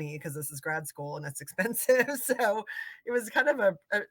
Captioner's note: laughing